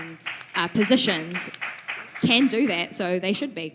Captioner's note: applause